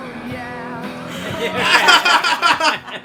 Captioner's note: laughter